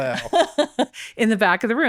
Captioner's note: laughing